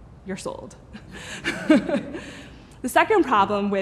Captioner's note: laughing